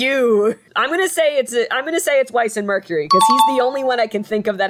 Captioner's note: success ding